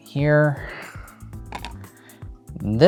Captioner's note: tile clattering